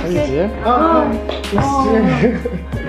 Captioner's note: laughs